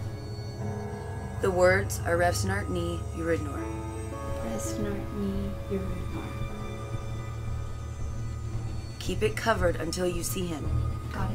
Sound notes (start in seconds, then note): 2.8 speaking in foreign language